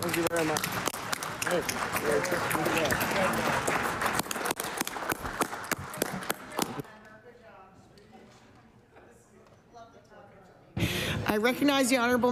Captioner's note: cheering & Applause